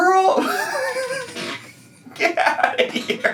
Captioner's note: laughs